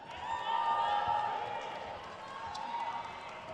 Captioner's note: crowd cheers